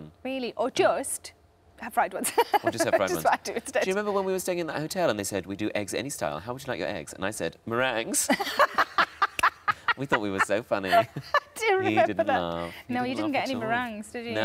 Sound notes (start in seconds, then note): 8.2 Sarah laughs